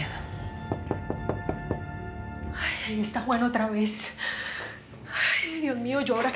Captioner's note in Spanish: toques en la puerta